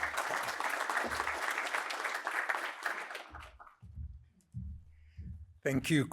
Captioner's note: applause